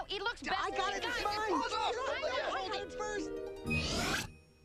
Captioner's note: all bickering